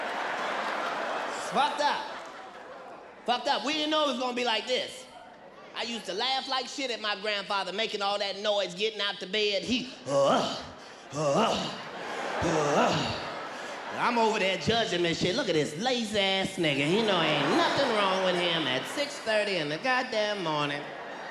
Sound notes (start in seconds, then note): 0.0 audience laughing; 11.1 groans; 11.1 audience laughs; 16.2 audience laughs